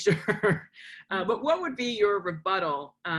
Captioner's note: laughs